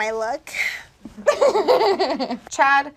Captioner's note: laughs